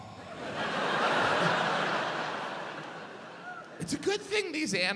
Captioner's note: audience laughs